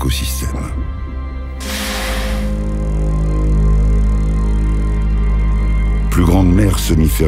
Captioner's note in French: Souffle d'un rorqual